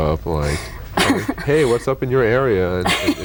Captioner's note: laughing